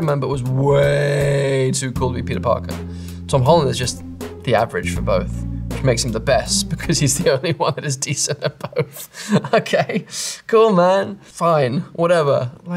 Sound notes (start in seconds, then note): 8.1 laughs; 9.9 chuckles